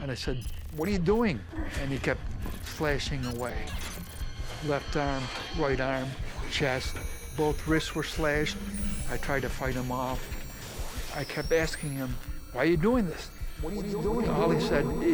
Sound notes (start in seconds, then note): 13.7 echo